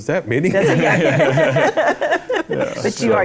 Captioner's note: laughter